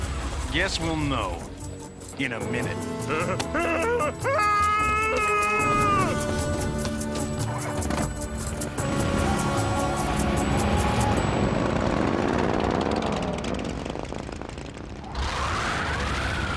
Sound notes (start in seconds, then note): 3.1 whimpering; 7.5 engine revving